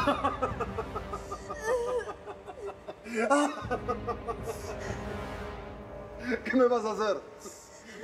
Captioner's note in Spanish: Sollozos; Carcajadas